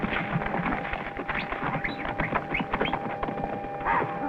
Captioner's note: whistling